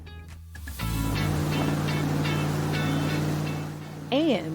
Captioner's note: motorboat rumbles, music